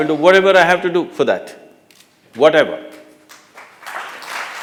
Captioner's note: applause